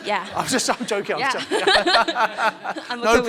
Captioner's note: laughs